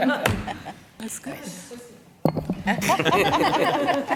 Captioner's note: laughter